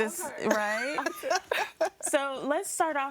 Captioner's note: laughs